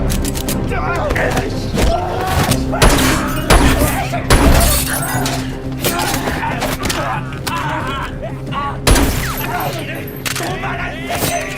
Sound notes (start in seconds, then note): 0.1 gun clinking; 3.5 gunshot; 6.0 man wailing; 10.4 man wailing; 10.9 pounding